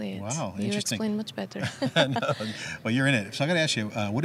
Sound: laughs

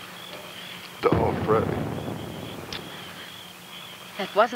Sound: distant boom rumbles

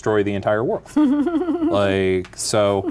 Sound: giggling

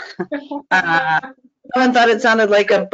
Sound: laughs

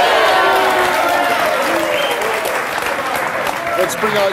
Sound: audience applauds

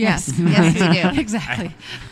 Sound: laugh

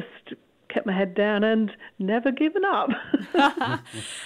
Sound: laughter

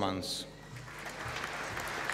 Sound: applause

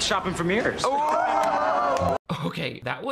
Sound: group laughs

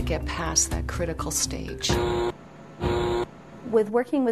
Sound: buzzing sound

